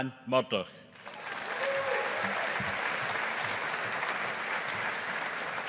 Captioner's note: audience applauding